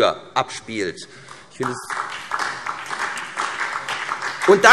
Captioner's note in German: Beifall SPD